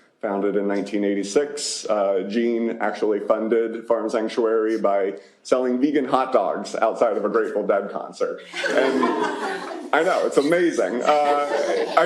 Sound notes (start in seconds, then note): 8.4 laughter